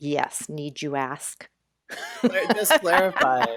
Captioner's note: continues laughing; laughs